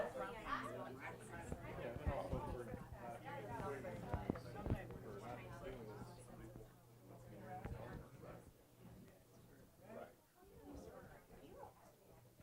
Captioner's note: background Discussion